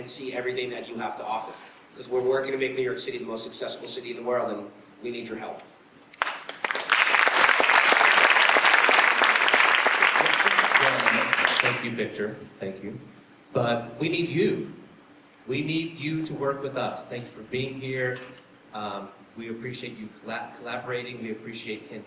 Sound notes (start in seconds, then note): 6.1 applause